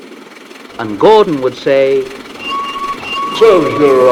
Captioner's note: whistle